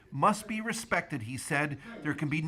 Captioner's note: speaking alternate language